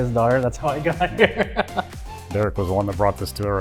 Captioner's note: laughing